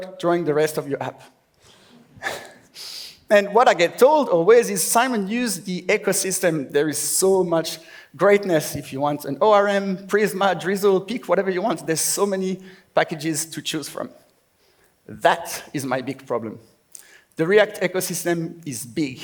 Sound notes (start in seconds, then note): 2.2 laughs